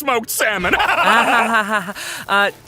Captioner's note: laughs manically